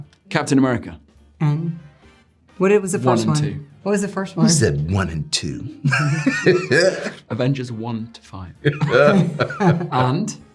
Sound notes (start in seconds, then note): 5.8 both laughing; 8.7 all laughing